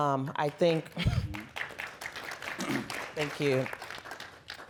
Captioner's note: applause